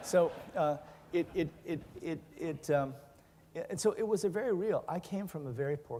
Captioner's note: laughing